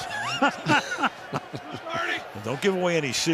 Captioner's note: laughter